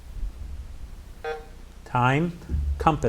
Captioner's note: buzzer buzzes